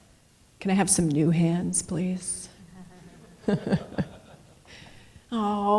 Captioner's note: laughs